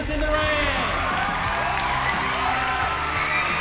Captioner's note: cheering, whooping